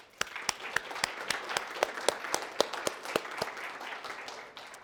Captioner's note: applause